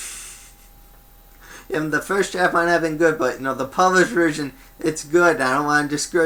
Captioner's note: laughs